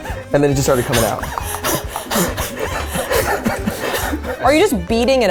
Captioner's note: panting